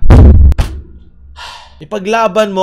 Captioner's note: sigh